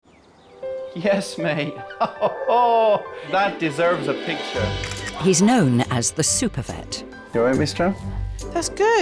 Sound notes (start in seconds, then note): 1.5 laughs; 4.7 camera clicking